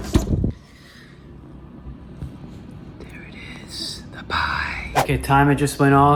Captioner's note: whisper